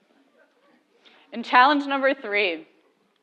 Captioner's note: laugh